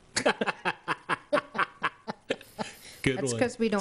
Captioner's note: laughing